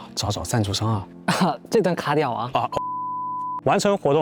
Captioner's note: ahem